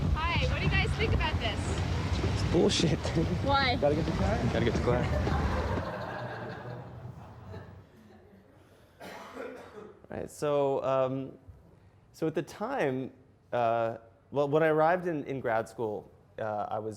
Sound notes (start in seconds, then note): 0.0 voiceover; 3.7 audience laughs